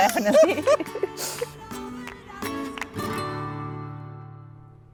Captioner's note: group laughing